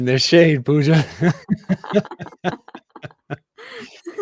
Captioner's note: laughter